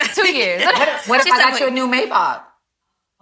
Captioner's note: ladies laughing